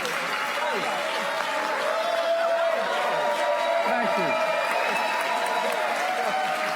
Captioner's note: applause